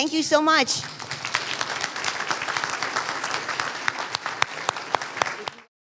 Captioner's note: applause